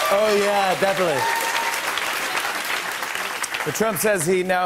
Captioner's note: cheers and applause